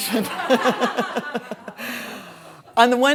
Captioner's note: all laughing